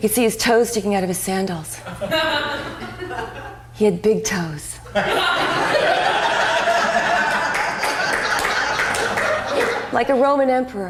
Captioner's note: applause